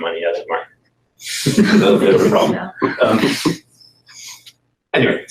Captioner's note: laughter